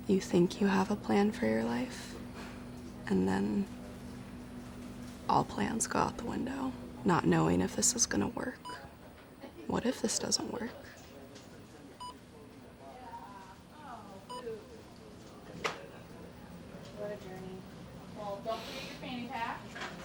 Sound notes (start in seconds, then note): 12.0 machine beeping